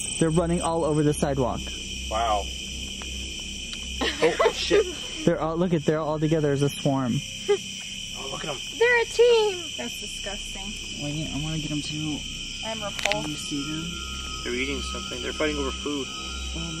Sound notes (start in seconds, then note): 4.0 laughing